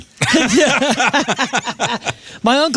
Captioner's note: laughing